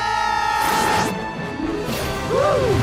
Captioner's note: screaming